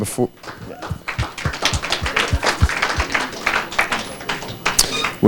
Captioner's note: audience clapping